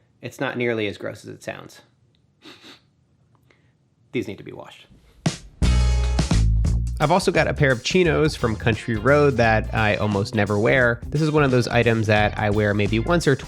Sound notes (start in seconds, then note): 2.4 sniffing; 5.4 light music continues